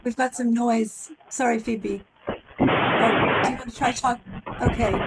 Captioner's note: white noise